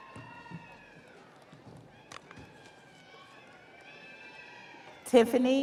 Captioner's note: audience cheering